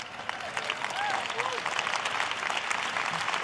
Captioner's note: cheers and applause